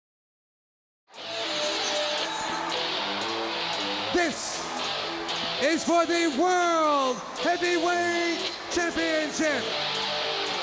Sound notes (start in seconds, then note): 1.7 crowd cheering; 1.7 upbeat music